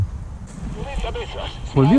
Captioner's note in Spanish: Sonido Radio FM